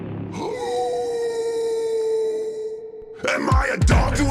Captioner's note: howls